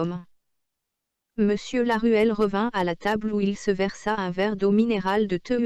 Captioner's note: computer speaking in French